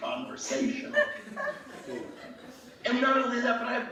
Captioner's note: laughing